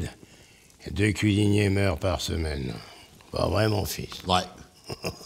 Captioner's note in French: Rires